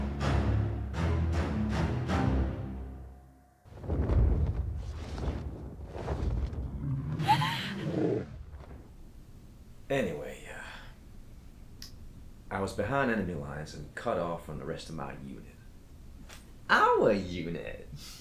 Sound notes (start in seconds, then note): 0.0 suspenseful music; 4.9 Connie sobs; 5.7 dragon growls